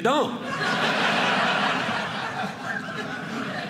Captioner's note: audience laughing